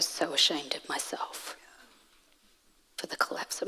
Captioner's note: none